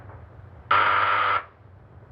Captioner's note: buzzing